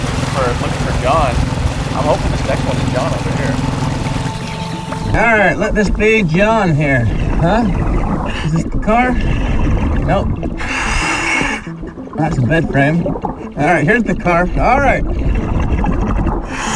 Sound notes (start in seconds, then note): 0.0 water splashing; 4.0 water trickling; 9.5 oxygen bubbling in water; 10.6 oxygen tank hissing; 15.2 oxygen bubbling in water; 16.5 oxygen tank hissing